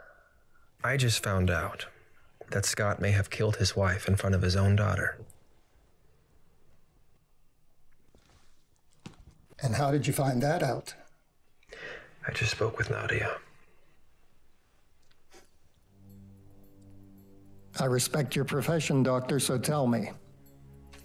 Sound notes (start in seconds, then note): 15.0 Mr. Pearson chuckles